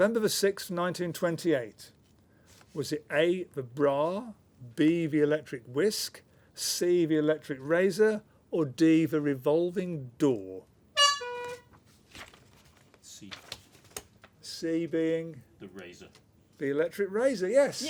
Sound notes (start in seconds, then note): 10.9 honk